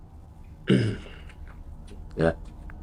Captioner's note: Gary clears throat